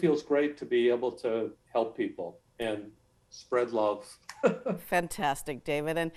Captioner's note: laughs